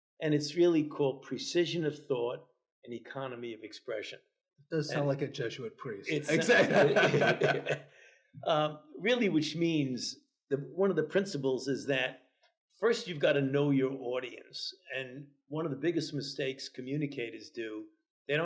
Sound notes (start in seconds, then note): 6.0 laughs